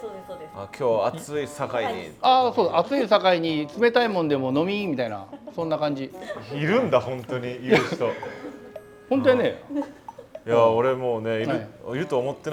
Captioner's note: with dialect